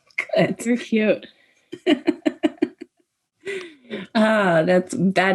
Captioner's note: participants laughing